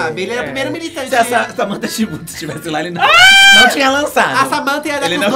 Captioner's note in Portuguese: grito